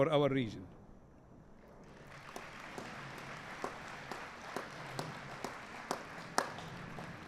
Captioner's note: applause